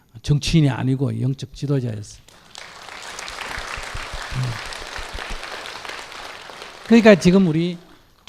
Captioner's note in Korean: 청중 박수